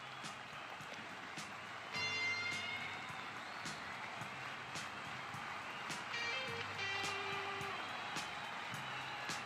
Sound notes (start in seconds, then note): 3.1 crowd cheering and applause increasing in volume